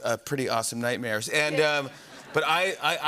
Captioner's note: laughter